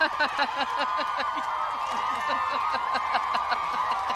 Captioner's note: both laughing